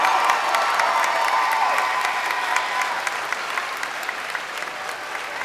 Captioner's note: crowd cheering